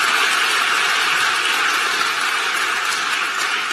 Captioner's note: applause